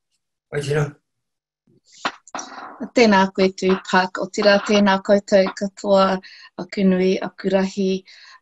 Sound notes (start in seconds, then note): 3.1 introduces herself in Māori